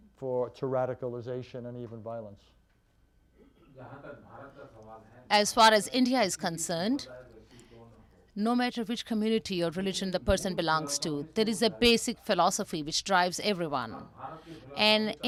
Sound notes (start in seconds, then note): 3.9 through translator